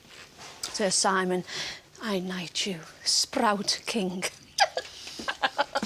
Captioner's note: laughs